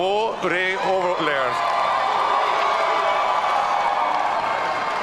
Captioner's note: audience cheering